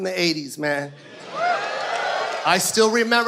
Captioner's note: audience cheers